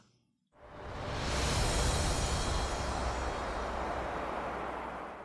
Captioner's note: wind whooshes